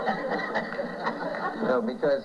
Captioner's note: laughter